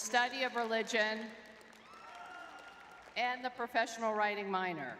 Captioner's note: crowd cheering; crowd cheering